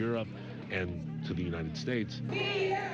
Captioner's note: crowd chanting in Spanish